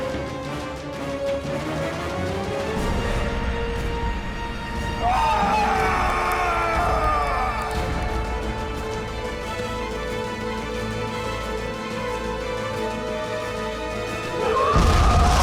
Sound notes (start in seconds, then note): 5.0 screams